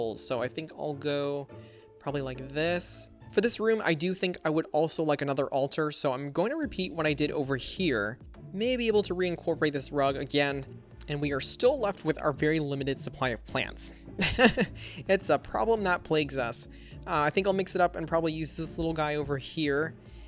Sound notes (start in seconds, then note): 14.2 laughs